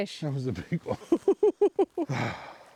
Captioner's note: laughing